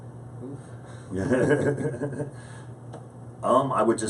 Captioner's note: laughing